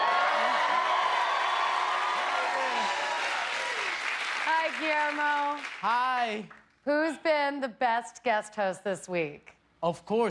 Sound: cheers and applause

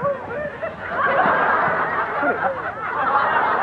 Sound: audience laughs

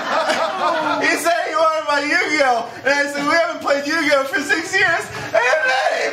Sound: sobbing; wailing

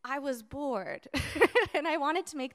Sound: chuckles

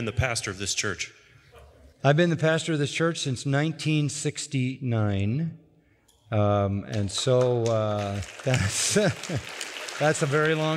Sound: applause

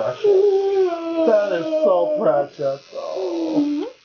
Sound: whimpers

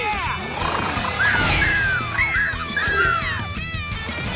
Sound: squeaking

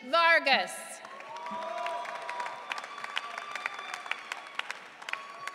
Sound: audience cheering

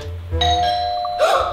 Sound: doorbell

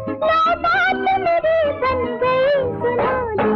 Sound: none

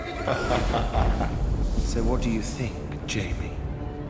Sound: laughs

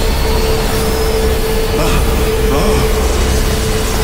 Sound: gasping

